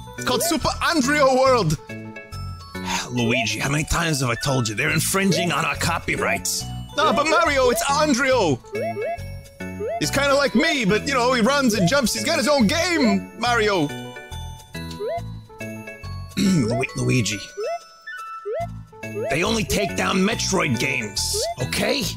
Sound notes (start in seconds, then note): 2.8 DiC Mario Voice; 2.8 sighs; 16.3 clears throat; 16.4 DiC Mario Voice